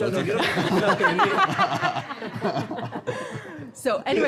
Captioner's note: everyone laughing